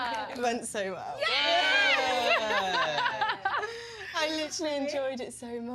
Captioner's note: laughs